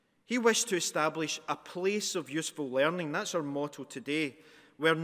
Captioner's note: none